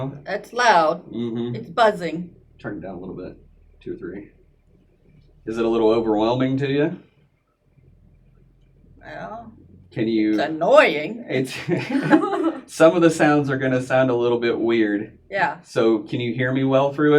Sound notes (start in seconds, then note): 11.4 all laugh